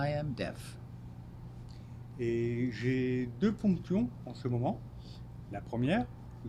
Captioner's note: speaking French